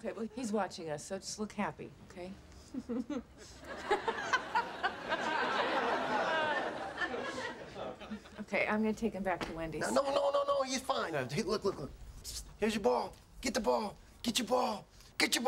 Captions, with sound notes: so let's just look happy, okay? ( fake laughter ) Okay, I'm going to take him back to Wendy's. No, no, no. He's fine. Look, look, look. Here's your ball. Get the ball. Get your ball. Get your ball!